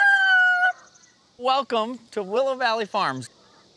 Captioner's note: rooster crows